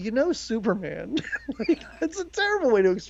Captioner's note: laughs